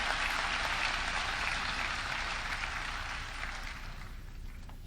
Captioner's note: audience clapping